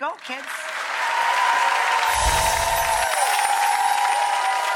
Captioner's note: audience applauds